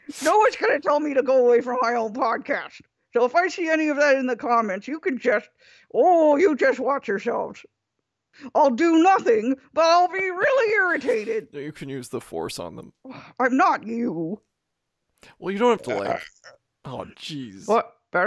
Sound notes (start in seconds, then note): 15.8 belches loudly